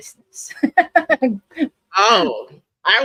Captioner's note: laughs